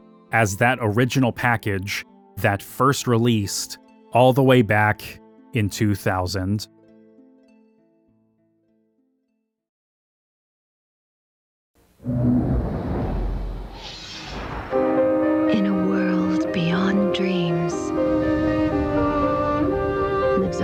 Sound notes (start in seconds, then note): 12.0 whooshes; 18.1 dramatic piano music